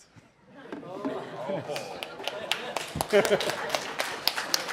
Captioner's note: audience moaning and chuckling; audience clapping